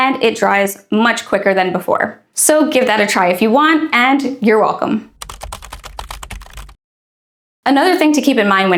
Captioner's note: keyboard Clacking